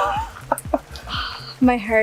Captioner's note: laughs